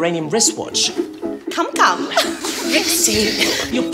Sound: both giggling

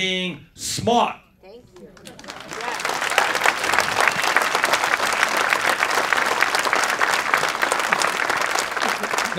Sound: clapping

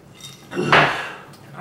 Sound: sigh

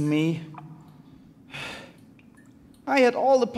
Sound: sigh

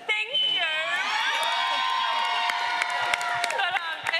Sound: audience cheering

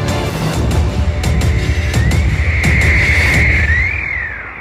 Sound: whale sounds

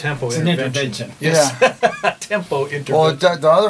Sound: laughs

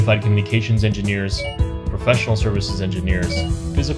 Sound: computer ding; computer ding

